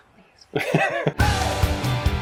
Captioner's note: laughing; energetic intro music